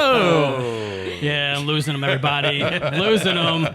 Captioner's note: all laughing